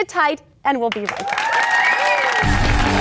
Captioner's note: applause; upbeat music